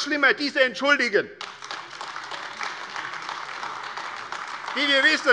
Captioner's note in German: Beifall AfD